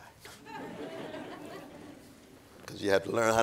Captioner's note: audience laughing